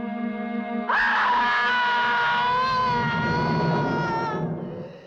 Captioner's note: woman screaming